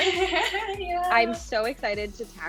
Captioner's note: laughs